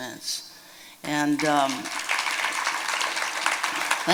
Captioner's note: applause